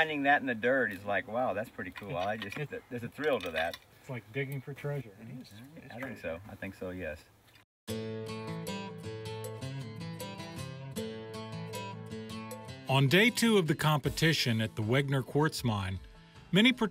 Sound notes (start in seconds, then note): none